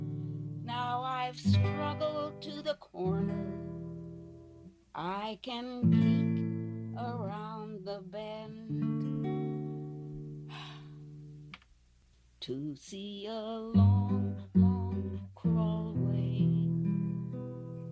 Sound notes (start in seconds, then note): 10.4 sharp exhale